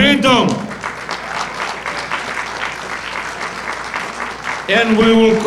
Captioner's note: audience applauding